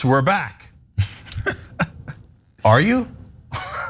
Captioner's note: laugh